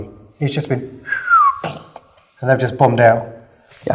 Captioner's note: whistles